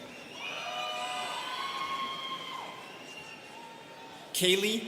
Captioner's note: students cheering